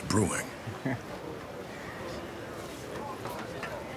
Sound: chuckles

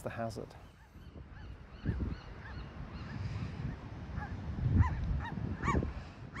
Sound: birds chirping, seals barking

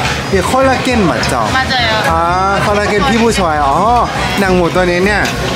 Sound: speaking in Korean

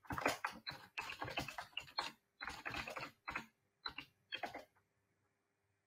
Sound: keyboard keys clicking

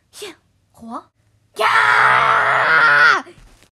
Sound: yelling

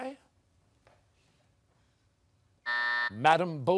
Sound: buzzer

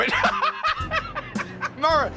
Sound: laughter

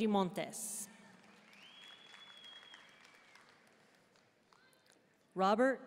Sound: audience cheering and applauding

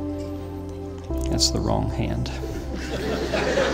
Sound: laughter

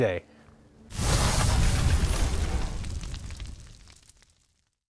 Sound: logo whooshing

